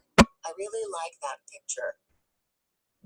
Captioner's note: voiceover